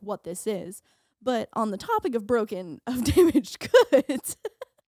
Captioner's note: laughing